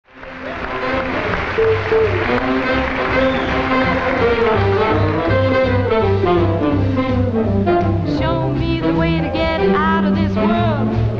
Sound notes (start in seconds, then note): 0.0 audience applause; 0.8 lively music